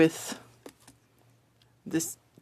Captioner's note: speaking French